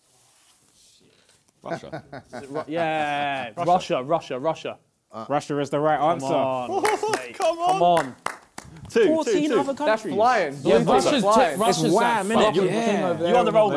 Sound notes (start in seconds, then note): 1.7 JJ laughs; 6.8 applause